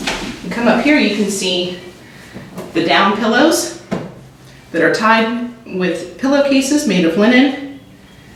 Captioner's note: bedding being ruffled